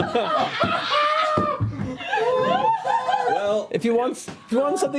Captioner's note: laughter